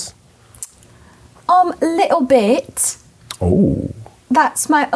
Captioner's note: speaking British